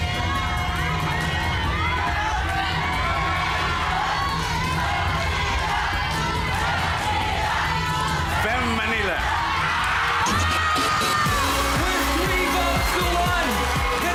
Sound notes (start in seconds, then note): 0.1 overlapping screaming; 5.0 audience chanting; 11.5 cheering